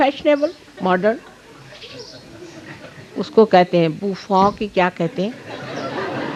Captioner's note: laugh